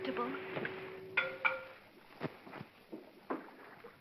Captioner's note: clanking sound